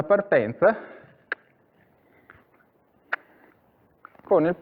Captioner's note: cluck